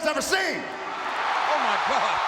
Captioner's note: audience cheering